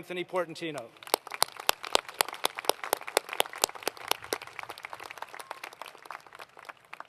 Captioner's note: applause